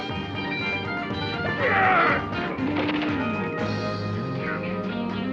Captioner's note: both grunting